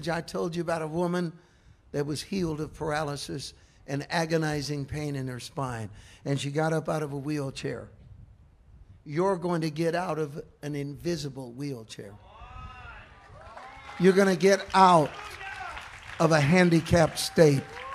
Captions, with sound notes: I told you about a woman that was healed of paralysis and agonizing pain in her spine. And she got up out of a wheelchair. You're going to get out of an invisible wheelchair. (congregation cheering) You're going to get out of a handicapped state